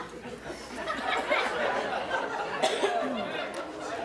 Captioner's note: audience laughs